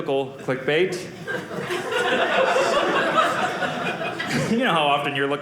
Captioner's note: audience laughing